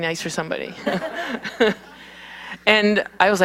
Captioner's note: laughter